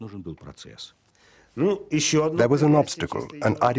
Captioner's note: speaking Russian